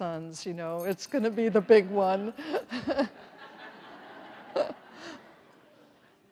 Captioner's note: everyone laughs